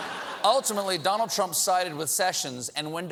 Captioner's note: laughter